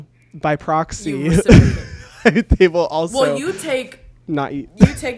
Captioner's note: laughs